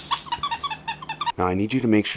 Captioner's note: laughing